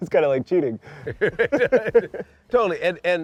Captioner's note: laughter